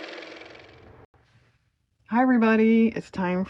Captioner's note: car motor